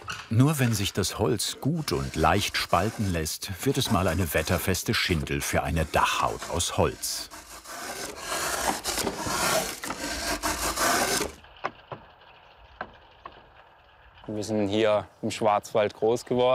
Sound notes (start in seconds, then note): 8.0 wooden scratching